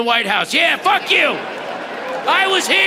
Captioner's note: audience laughing